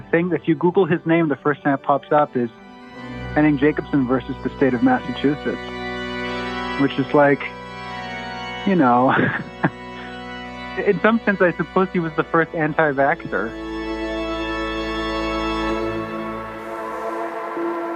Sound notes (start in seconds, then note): 8.9 chuckles